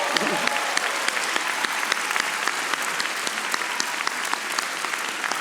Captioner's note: audience applauding